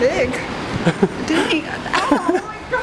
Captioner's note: laughing